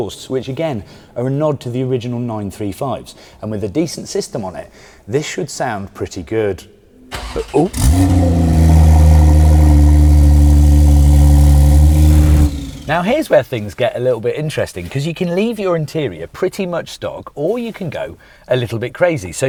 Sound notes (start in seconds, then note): 7.1 engine starts